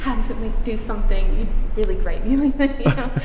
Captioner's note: laughs